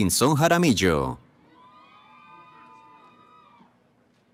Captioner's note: cheering